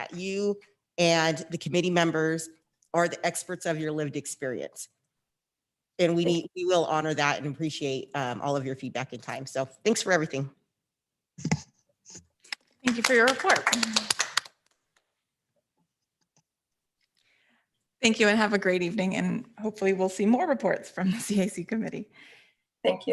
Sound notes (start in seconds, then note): 12.8 board members applauds